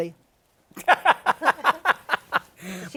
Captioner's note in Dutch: Laughs